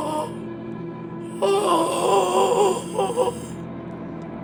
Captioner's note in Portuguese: grunhidos; gemidos